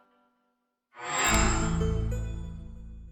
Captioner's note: microsoft sound